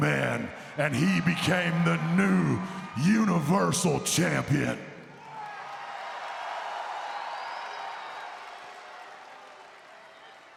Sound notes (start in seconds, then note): 5.4 crowd cheering